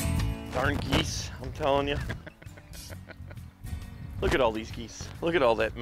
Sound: laughing

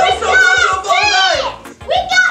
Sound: kids screaming

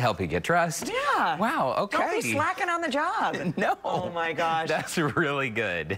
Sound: laughter

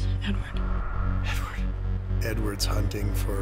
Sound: whispers

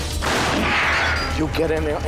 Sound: gun shooting

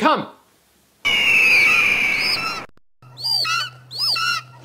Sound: birds shriek

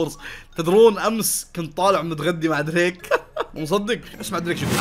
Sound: laughs

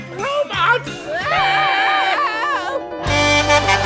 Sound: screaming; Blaze honking

